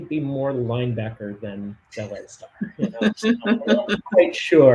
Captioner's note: laughs